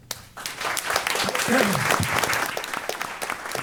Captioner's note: applause